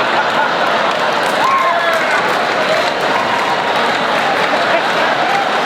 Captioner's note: crowd laughs and cheers